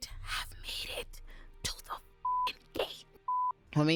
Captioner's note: beep